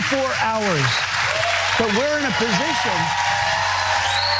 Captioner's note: applause